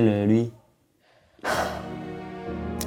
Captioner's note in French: soupir